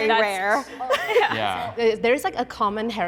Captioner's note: laughter